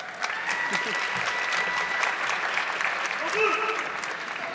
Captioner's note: audience clapping